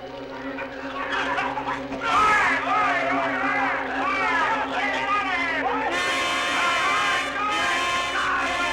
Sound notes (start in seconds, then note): 0.5 men coughing; 0.8 men yelling